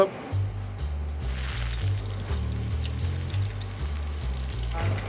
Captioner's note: oil sizzling